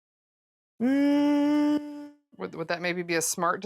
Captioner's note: thinking hum